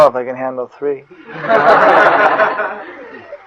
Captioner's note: laughter